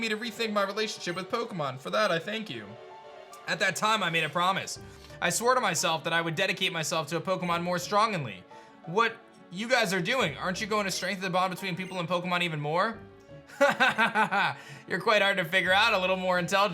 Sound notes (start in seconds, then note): 13.5 evil laugh